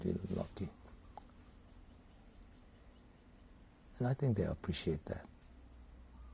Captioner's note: pauses for 3 seconds